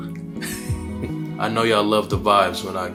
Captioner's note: chuckling